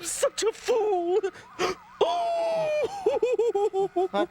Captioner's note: crying